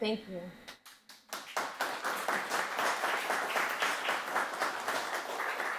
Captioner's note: audience applauds